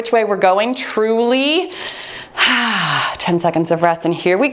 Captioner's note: timer beeps